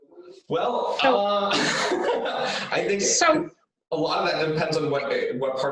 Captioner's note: laughs